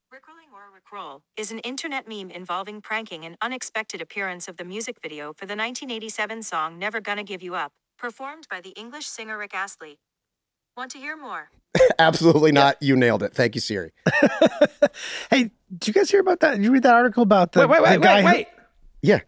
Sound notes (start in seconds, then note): 14.0 laughs